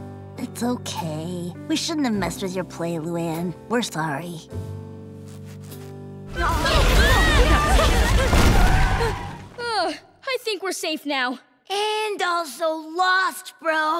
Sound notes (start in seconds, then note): 6.3 screaming